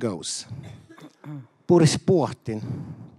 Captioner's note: speaking German